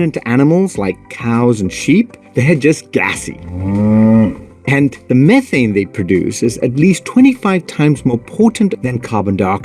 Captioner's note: cow moo